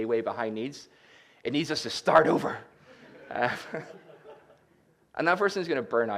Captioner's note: laughter